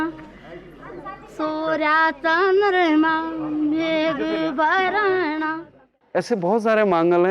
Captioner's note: regional language